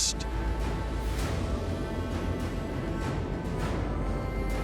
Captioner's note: distant engine roars